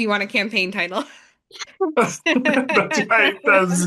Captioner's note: laugh